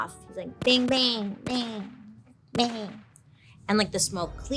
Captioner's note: gun blasting